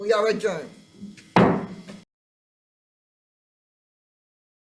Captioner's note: gavel thudding